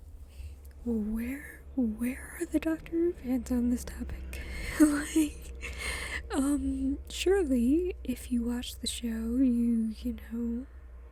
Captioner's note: laughs